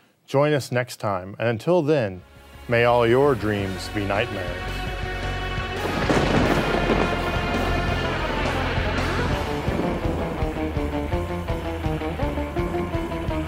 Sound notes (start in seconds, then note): 5.6 thunder crashing; 5.8 upbeat rockabilly music